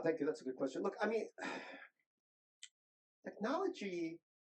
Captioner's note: sighs